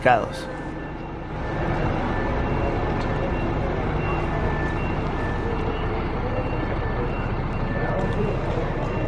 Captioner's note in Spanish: sonido ambiente del bus 'Pullman Tur 151'